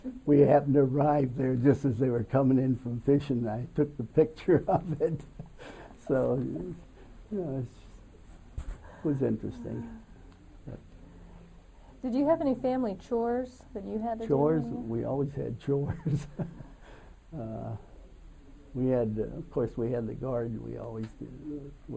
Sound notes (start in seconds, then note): 15.9 laughs